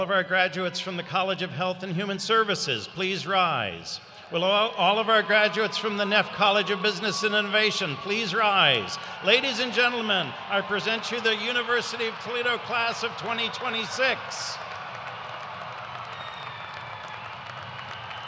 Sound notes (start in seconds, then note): 10.6 cheers